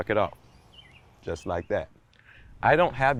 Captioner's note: birds twittering distantly